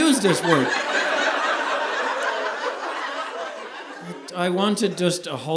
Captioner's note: audience laughing